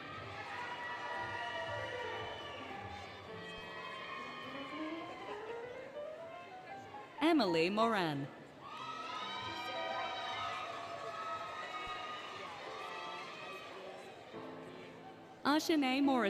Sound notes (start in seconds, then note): 0.0 cheering, Music; 8.7 applause, Cheering, Music